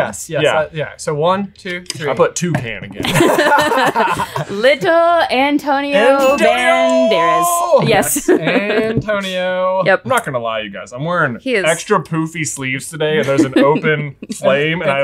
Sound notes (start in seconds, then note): 3.0 group laughing